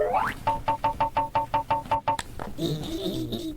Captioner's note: TV noises